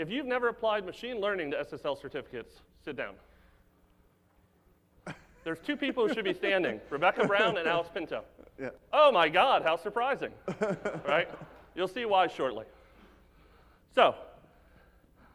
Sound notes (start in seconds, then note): 10.5 audience laugh